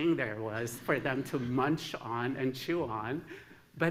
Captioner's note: laughter